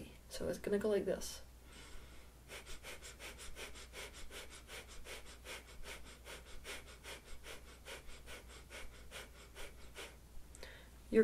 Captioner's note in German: atmet